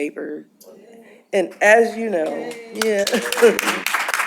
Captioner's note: applause